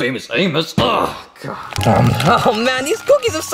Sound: fist bangs

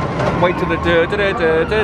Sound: vocalizes

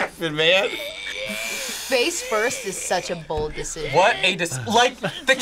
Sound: sighs

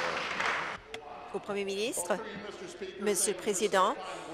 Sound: applause

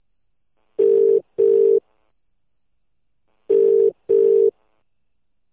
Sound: mobile call connecting

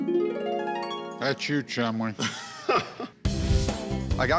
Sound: harp glissando; laughs

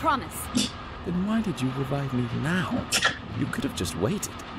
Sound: scoffs

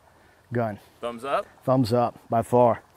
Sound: voiceover

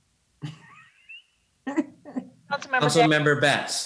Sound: laughs

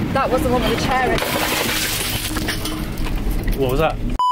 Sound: huge smash

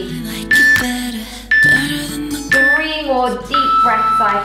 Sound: workout timer beeping

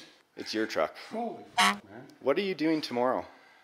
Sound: honking

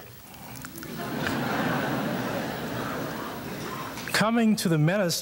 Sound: audience chuckles

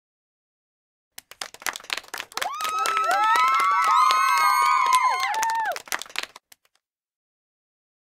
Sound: sound of applause

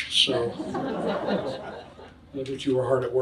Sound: audience laughs

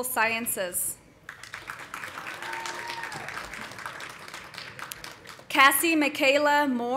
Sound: audience applauding; audience cheering

